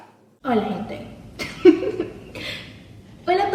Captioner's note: giggles